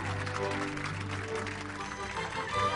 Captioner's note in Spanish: Aplausos